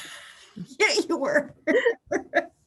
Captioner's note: laughs